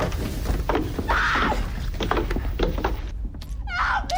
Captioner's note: Rebecca screams